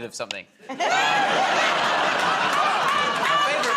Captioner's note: laughter